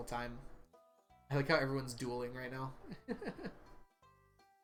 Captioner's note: laughs